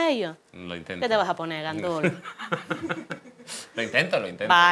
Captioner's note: laughs